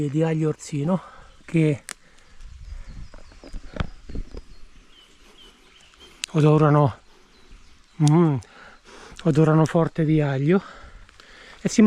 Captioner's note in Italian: mmhh